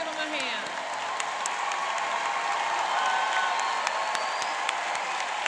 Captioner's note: cheering and applauding